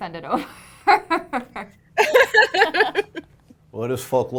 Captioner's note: laughs